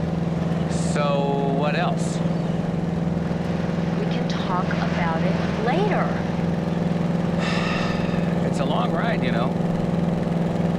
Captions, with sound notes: - So? - So what else? - We can talk about it later. (Nash sighing) - It's a long ride, you know.